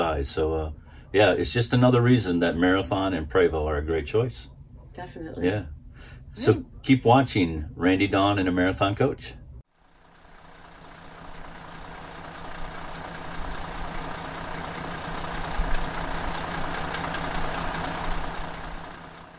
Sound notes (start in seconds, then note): 13.0 vehicle engine roaring